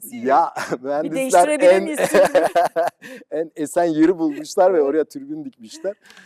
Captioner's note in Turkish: kahkaha